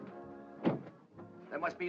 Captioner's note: door closes